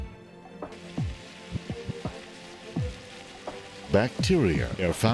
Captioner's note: spurting water